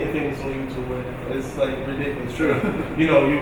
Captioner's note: laughing